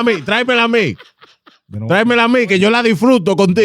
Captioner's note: speaking In Foreign Language